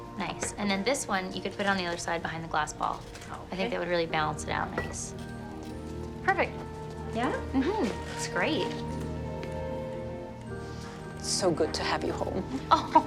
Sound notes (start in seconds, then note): 7.5 Cassie hums; 12.1 laughs